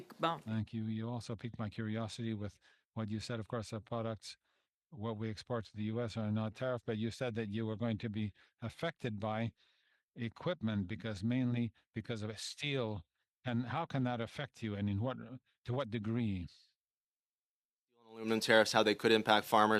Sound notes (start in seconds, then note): 1.8 speaking French